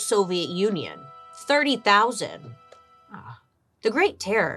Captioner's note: groans